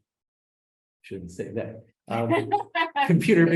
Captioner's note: laughs